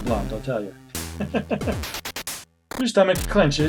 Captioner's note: laughs